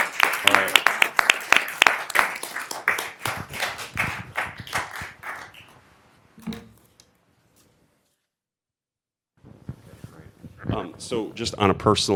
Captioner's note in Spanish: Aplausos